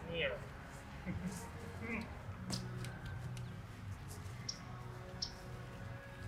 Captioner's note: laughs